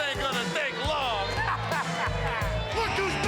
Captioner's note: laugh